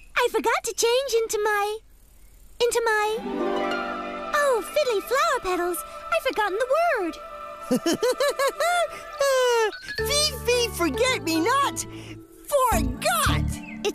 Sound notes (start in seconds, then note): 7.6 Fuzzbuzz Chuckles